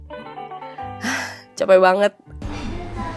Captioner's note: sighed